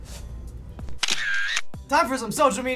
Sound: camera shutter snapping

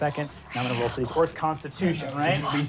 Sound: whispering

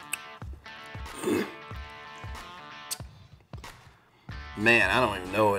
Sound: clears throat

